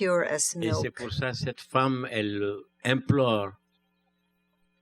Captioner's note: speaking french